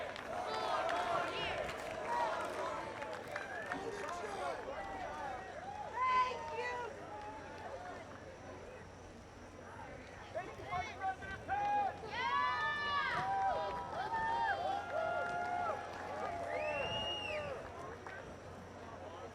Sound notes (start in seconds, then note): 0.0 applause; 2.5 chanting "four more years"; 17.6 cheering